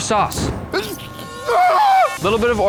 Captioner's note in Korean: 재채기